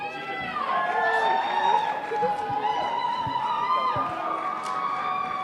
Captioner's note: crowd cheering